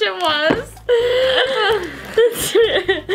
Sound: laughing

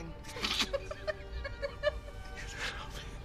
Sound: still giggling; laughing

